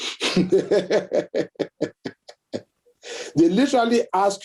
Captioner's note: laughs